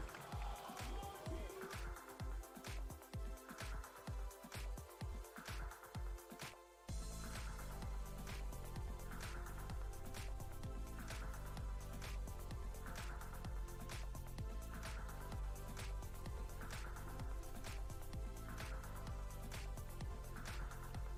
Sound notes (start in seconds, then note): 2.6 applause